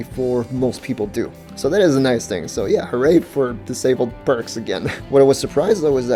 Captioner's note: laughs